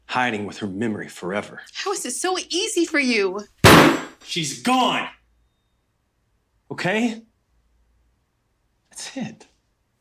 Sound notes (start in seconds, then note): 3.6 fist slamming